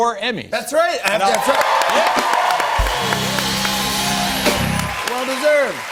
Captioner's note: cheers and applause